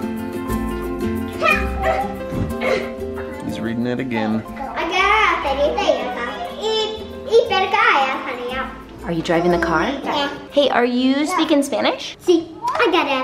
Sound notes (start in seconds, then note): 0.3 playful music; 5.0 child speaking in foreign language